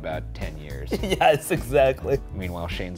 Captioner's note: laughs